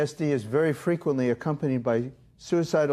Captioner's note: none